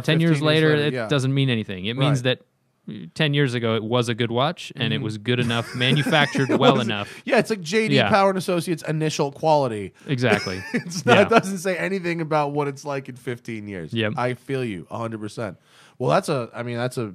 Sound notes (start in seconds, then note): 5.4 laughter